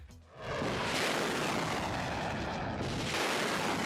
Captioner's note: rockets roaring